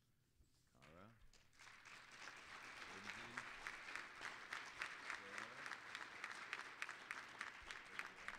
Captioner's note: applause